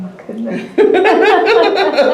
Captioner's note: laughter